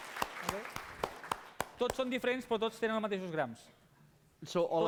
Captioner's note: non-english speech